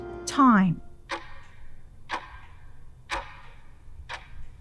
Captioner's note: sound of clock ticking